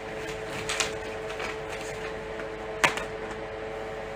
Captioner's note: sound of flag ripping